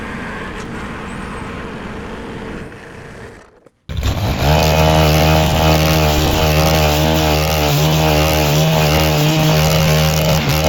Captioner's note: engine revving